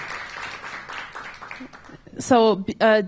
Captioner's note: applause